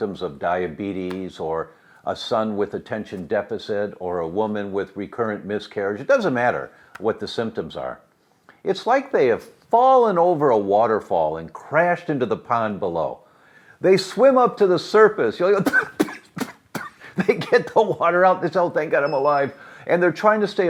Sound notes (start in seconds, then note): 15.6 spluttering and coughing